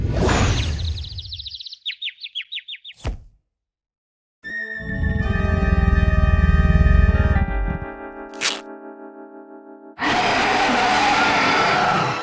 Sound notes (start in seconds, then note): 0.8 birds chirp; 10.0 roars